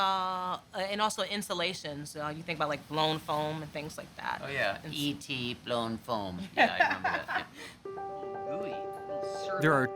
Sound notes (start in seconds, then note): 5.2 imitating E.T; 6.5 laughing